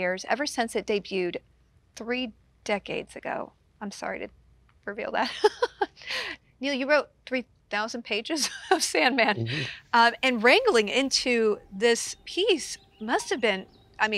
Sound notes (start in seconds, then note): 5.2 laughs